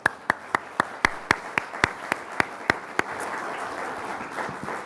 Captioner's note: everyone clapping